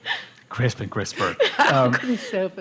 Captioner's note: laughter